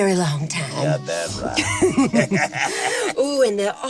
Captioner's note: chuckles